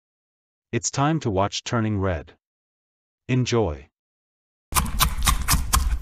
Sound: munching

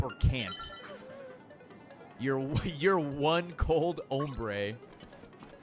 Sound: laughs

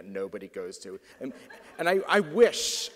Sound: audience laughs

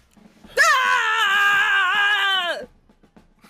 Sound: shouting

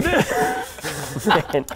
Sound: childish giggles

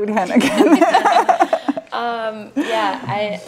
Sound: laughs

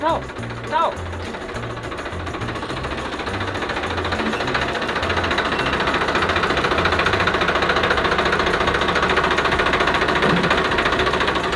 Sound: generator sound

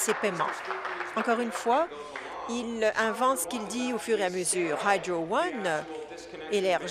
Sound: applause

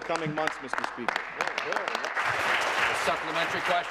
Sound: applause

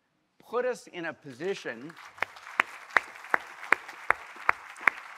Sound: all applauding

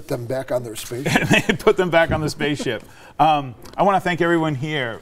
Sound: laughing

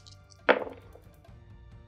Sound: intense music; dice thudding

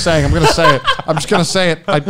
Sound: men laughing

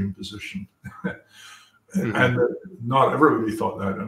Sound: laugh

